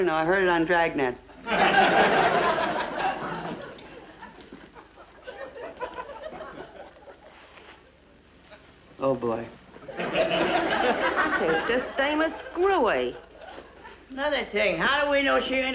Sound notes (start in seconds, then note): 1.4 audience laughs; 9.8 audience laughs